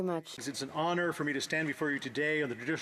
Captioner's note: applause; speaking French